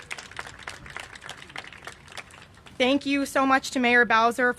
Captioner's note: applause